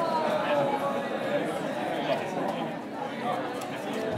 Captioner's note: chattering